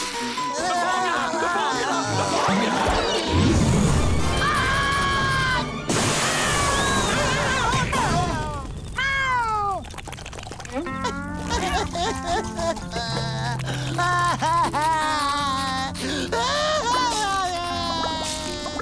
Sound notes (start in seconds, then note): 0.5 crying; 4.2 screaming; 10.9 crying